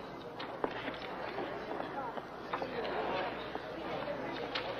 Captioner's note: footsteps receding